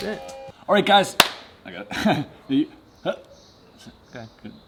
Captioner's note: laughs